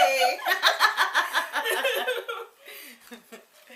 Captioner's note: both laughs